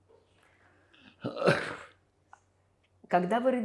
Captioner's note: coughing